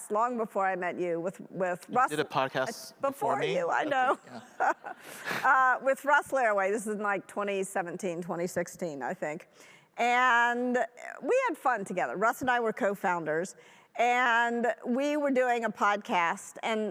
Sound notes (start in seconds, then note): 3.6 laughs